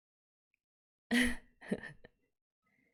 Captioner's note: chuckles